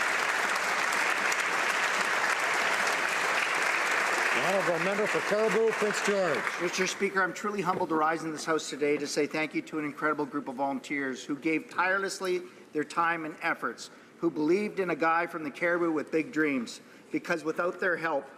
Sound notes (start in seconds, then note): 0.0 applause